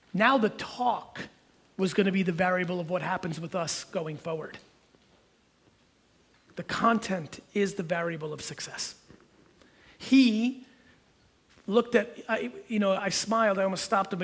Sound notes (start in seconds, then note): none